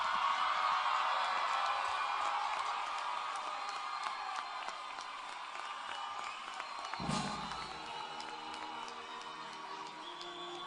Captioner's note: applause and Cheering